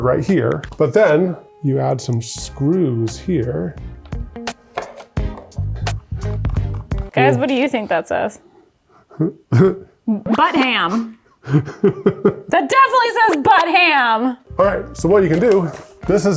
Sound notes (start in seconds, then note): 4.0 gentle jazz music continues; 11.4 laughing